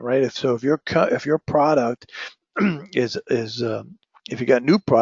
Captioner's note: cough